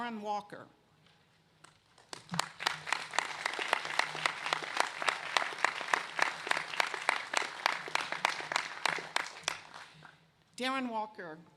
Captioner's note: applause